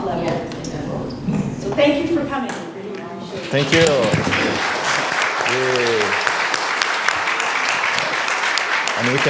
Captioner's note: applause